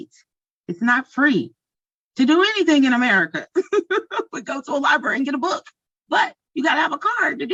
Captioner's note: chuckles